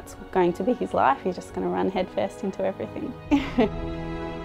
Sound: laughs

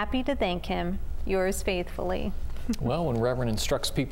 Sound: giggles

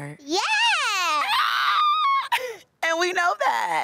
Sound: screams

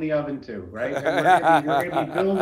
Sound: laughs softly

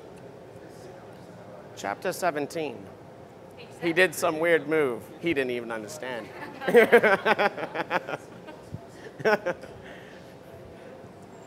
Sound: laughter

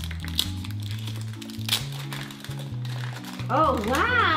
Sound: plastic tearing

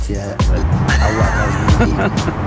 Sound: chuckling

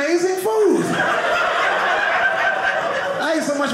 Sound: audience laughing

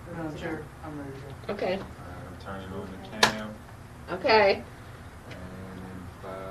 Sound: man speaking in the background

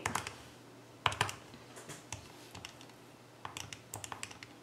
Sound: typing sounds

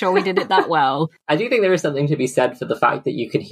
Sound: laughs

